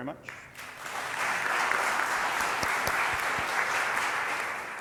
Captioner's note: audience clapping